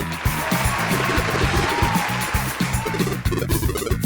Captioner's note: canned applause/cheers